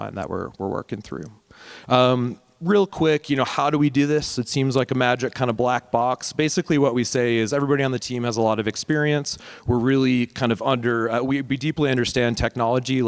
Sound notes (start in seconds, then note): none